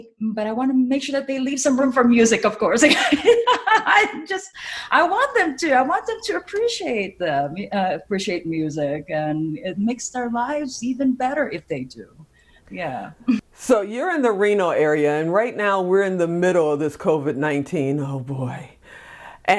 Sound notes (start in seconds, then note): 2.9 laughs